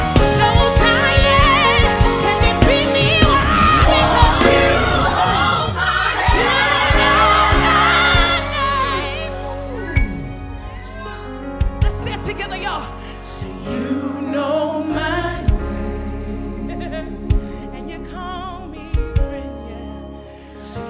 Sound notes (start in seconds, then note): 9.8 audience cheers